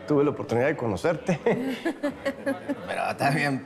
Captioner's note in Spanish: Ambos ríen